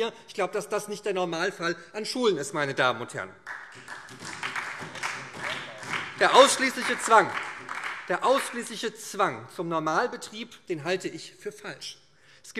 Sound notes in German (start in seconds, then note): 3.4 Beifall SPD